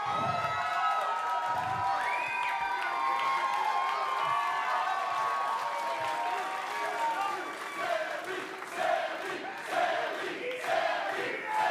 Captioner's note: cheers & applause